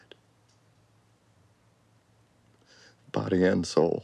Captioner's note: inhales